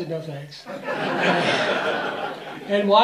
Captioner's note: laughter